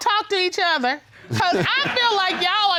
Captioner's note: chuckles